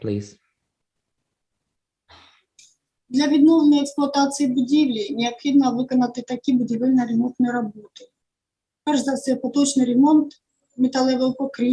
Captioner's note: foreign Language